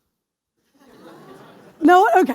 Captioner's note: laughter